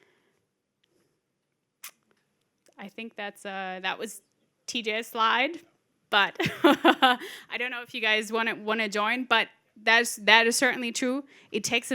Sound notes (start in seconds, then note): 6.5 laughs